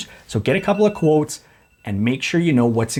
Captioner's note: alarm sounds